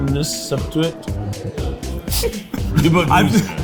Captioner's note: laughs